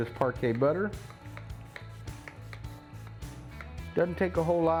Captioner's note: Parkay hissing and clattering